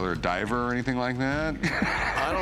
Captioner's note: laughs